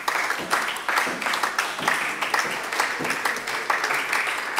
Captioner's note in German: Beifall bei der SPD